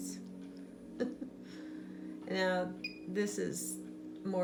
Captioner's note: chuckles